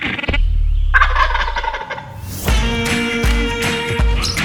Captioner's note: turkey gobbling; bluesy music continues